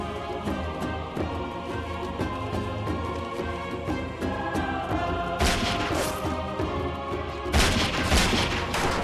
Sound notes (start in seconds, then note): 4.6 gunshot